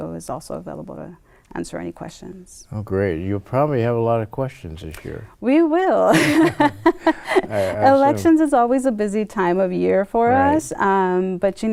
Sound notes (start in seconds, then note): 6.1 laughs